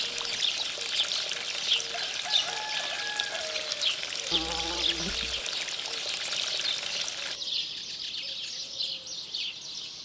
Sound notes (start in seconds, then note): 1.9 rooster crowing; 2.1 water trickling; 3.6 birds chirping; 4.9 water trickling